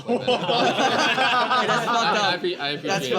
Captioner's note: all laughing